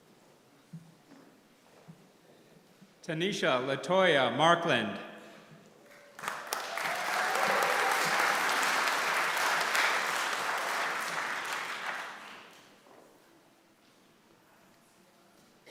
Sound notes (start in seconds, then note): 5.9 applause